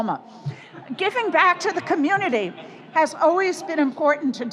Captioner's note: audience laughs